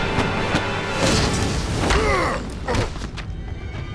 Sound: grunting

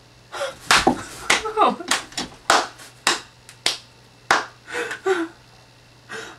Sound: sarcastic clapping

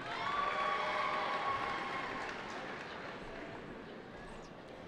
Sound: cheering

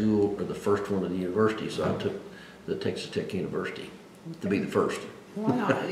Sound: laughs

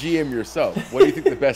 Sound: laugh

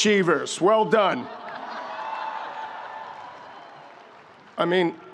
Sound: audience laughs

